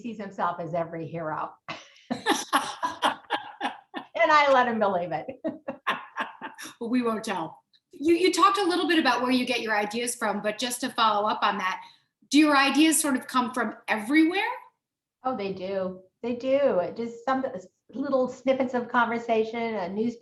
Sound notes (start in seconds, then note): 5.2 both laughing